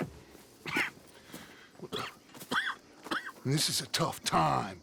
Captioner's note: Arthur is set aside. He coughs